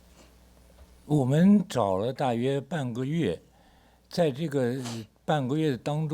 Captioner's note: speaks Mandarin